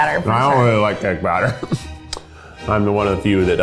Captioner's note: laughs